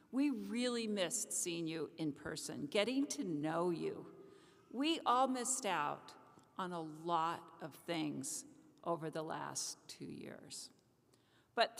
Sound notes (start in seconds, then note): none